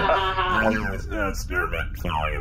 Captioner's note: laughs